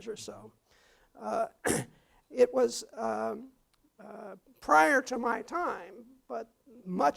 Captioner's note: cough